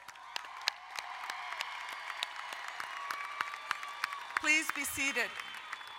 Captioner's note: crowd cheering and applauding